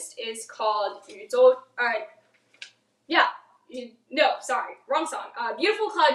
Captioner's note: speaks in foreign language